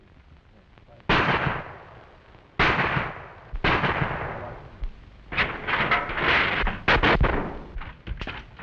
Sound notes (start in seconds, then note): 0.8 gunshots; 5.2 crash